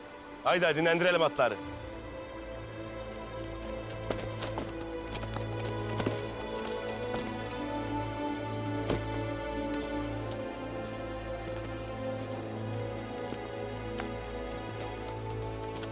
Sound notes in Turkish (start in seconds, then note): 3.0 Ayak sesleri